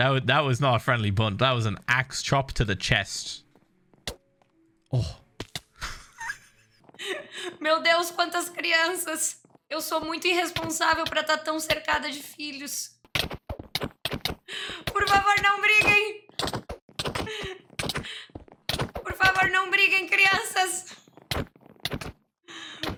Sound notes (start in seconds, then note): 6.9 in Portuguese